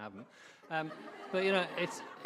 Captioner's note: audience laughing